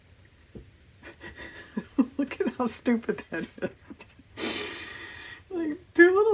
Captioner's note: laughs